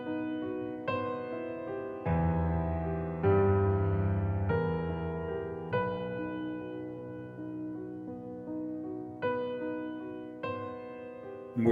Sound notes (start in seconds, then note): none